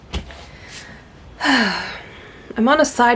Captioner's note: medium-heavy sigh